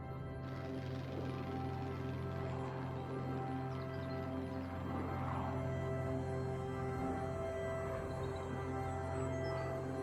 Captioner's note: airplane rumbles